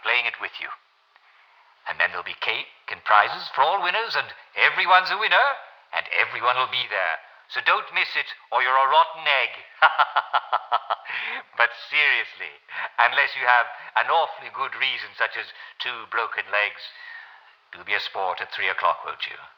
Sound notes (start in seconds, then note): 9.7 laughs